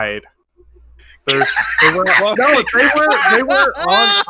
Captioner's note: laughs